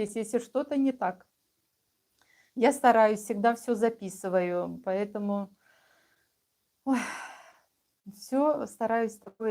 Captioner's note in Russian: вздыхает; тяжело вздыхает